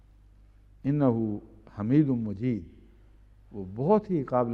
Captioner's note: Arabic